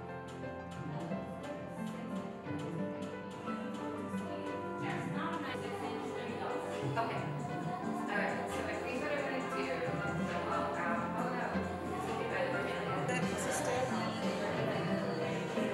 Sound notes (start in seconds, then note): 0.2 upbeat music; 4.8 indistinct background chatter